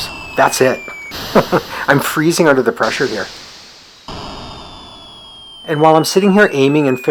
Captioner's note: chuckles